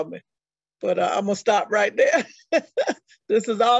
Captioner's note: chuckles